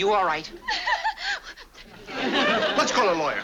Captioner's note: laughs nervously